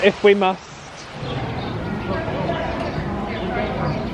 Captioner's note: birds chirping